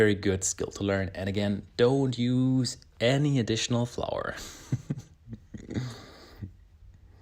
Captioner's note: laughs